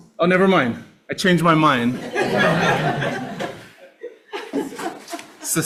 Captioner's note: all laughing